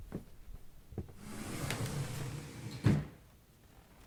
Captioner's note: door slides closed